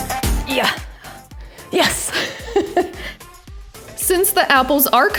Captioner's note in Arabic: يضحك; همهمات